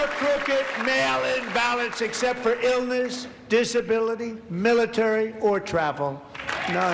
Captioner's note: applause